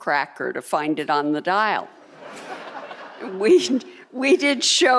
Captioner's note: audience laughing